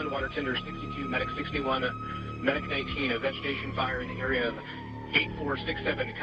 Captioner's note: radio